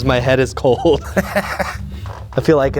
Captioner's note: laughs